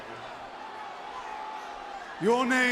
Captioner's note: audience jeers